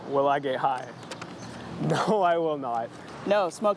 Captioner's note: laughter